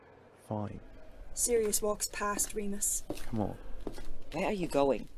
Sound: footsteps

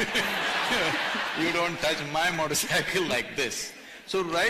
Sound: laughter

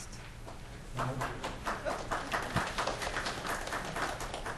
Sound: crowd applauds

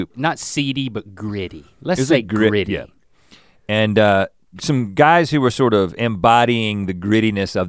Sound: none

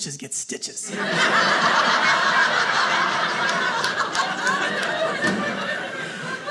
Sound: audience laughing

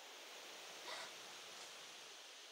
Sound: gasps

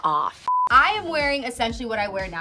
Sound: beeping

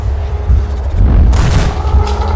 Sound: bam

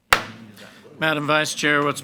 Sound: gavel bangs

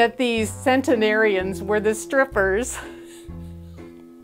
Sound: laughing

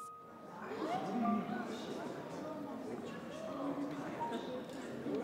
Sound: crowd gasping and chattering

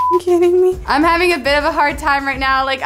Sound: beep

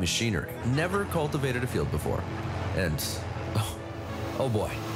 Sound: sighs

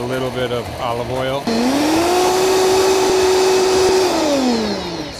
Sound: blender running

